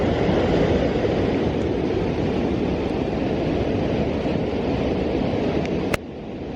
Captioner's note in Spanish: sonido ambiente de la cascada